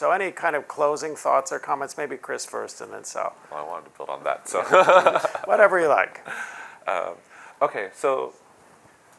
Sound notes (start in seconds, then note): 4.6 laughs